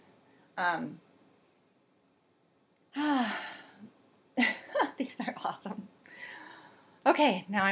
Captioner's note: breathe, ahhhhh